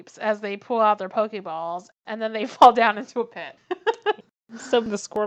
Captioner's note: laughs